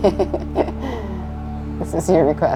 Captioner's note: chuckles